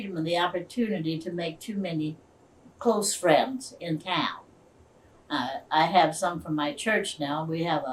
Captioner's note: none